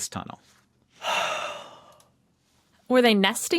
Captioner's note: sighs